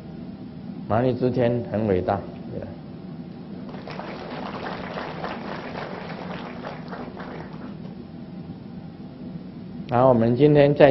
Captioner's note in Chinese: 眾鼓掌